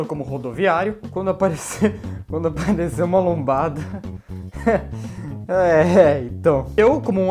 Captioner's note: laughs